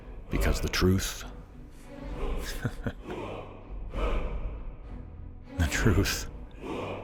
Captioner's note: chuckle